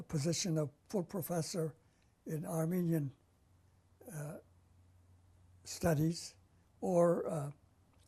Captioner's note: pauses for 3 seconds